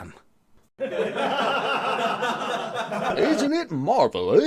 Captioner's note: laughter